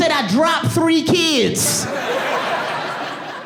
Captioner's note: audience laughing